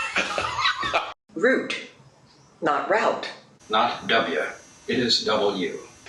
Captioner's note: laughs